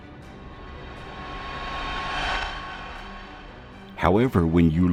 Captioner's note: ghostly whooshing